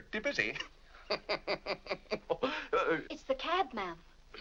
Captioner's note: laughs